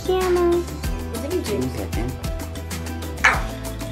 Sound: speaking softly

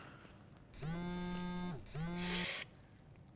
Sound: phone vibrates

